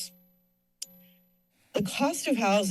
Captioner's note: pause